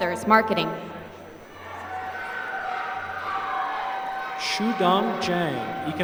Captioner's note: applause